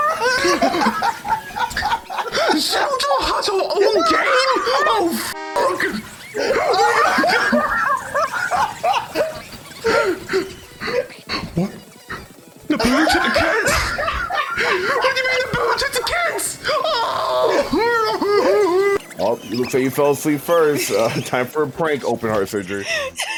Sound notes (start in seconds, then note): 0.0 cRYING LAUGHING IN THE BACKGROUND; 8.5 continue crying of laughter; 17.9 cries in voice changer